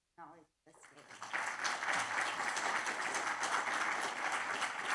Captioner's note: audience applauding